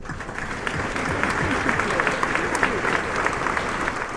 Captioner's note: crowd applauds